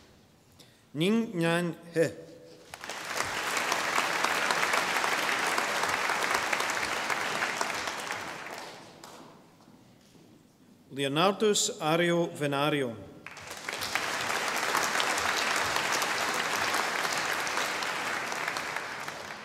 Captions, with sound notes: Ningnan He. (audience applauding) Leonardus Ario Venario. (audience applauding)